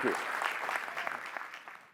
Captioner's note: applause